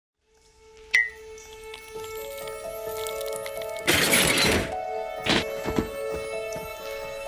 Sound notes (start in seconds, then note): 1.1 blink pings; 2.2 light piano music; 3.8 trap slams